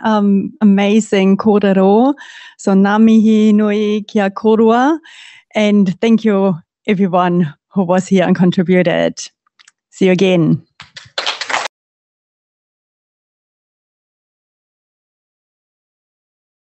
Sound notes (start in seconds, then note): 10.7 applause